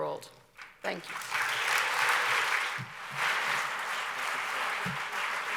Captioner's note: audience applauds